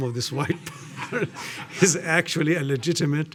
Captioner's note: audience laughing